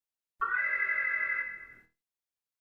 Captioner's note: alarm